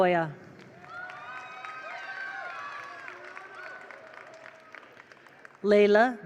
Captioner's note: attendees applaud; attendees cheer